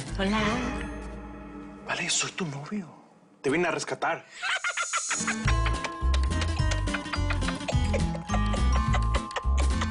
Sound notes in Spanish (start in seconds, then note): 4.4 Risas